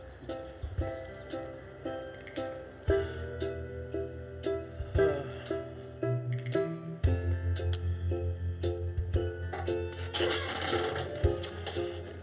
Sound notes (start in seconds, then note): 3.4 sighs; 9.9 chair creaks